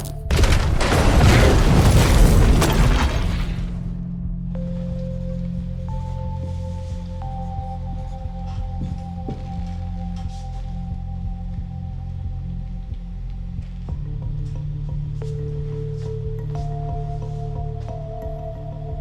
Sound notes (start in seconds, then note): 4.6 gas explosion